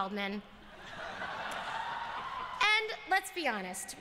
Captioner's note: laughter and cheers